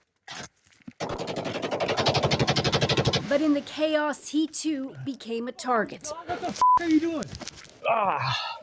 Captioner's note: gunshots